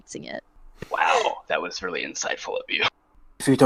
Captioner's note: sarcastic